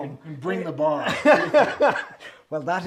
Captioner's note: laughs